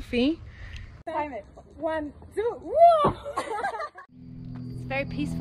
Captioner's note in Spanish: la risa